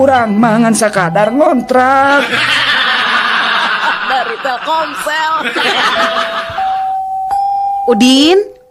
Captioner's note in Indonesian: tertawa